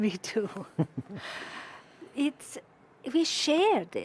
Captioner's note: chuckles; chuckling